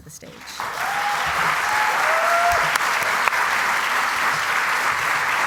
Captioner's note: cheering and applause